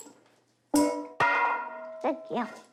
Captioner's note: bowl clangs